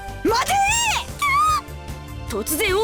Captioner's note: panicked cry